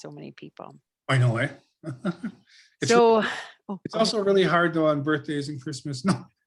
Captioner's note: lauhgs; laughs